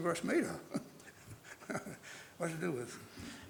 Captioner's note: chuckles